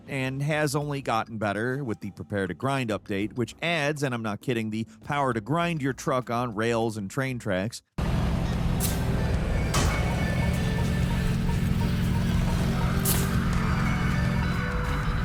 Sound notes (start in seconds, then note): 8.0 track engine rumbling; 9.1 upbeat music